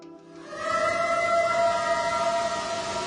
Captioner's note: eerie howl